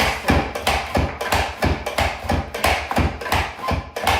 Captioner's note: mandolin slicing